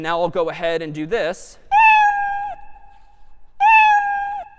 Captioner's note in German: meowing